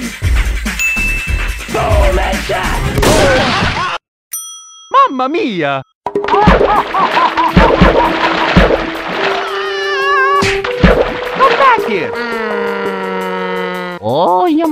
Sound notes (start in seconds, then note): 6.7 Pyro laughing; 10.4 splash; 11.9 Mario makes motor noises